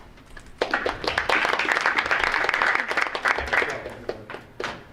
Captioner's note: audience applauding